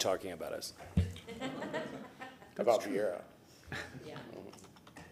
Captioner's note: laughter